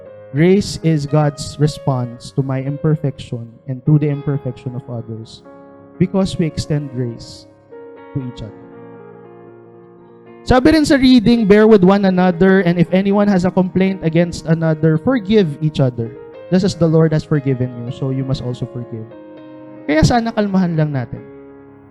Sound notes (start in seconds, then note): none